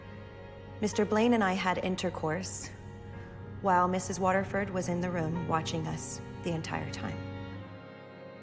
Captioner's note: voiceover